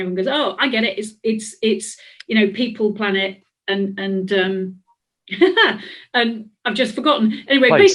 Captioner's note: laughs